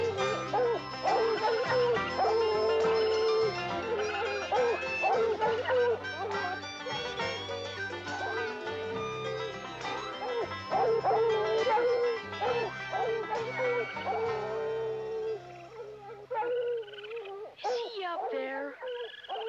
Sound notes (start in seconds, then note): 15.2 raccoons squealing